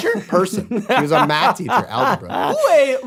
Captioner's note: laughs